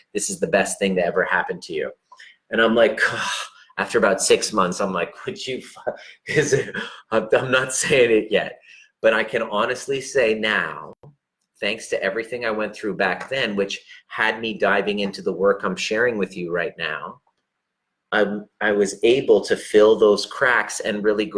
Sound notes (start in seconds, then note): 6.7 gasping sounds